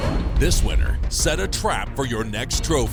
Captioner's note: voiceover